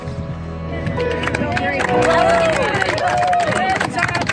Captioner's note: cheers and applause